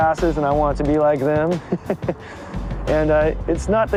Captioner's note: laughs